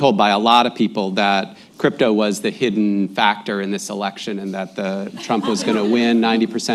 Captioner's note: laughter